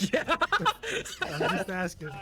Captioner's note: laughs